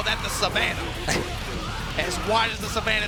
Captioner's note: laughing